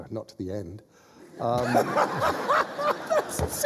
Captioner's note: laughter